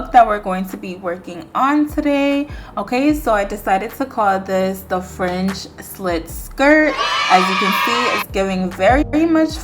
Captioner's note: kids cheering